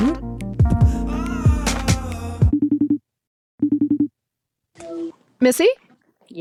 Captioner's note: energetic music; phone rings